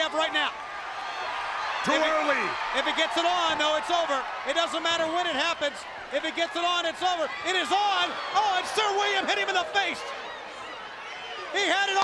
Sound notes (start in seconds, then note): 1.2 crowd cheering